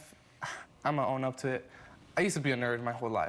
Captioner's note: sighs